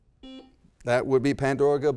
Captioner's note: beep